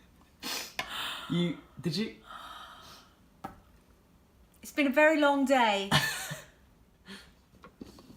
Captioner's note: sigh